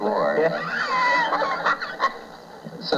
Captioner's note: laughter